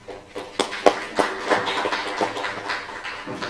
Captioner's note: applause